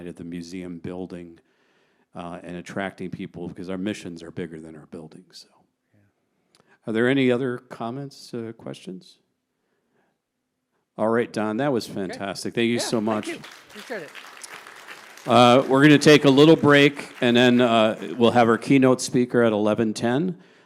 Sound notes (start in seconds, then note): 12.7 audience applauds